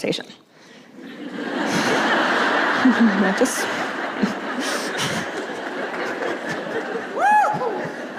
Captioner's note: laughter; cheering